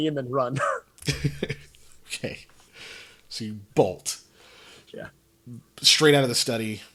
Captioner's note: laughs